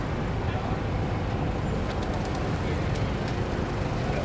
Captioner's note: engines rumbling